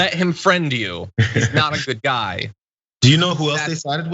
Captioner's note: laugh